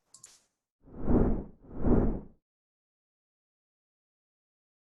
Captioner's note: swishing